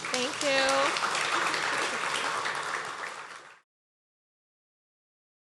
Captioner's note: audience clapping